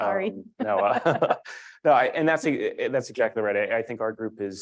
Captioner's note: laugh